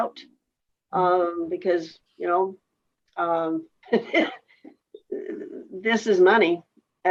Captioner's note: laughs